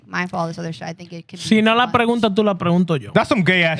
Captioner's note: non-english Speech